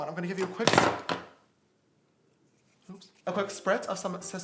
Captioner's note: clattering